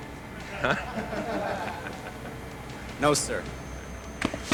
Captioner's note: squad laughs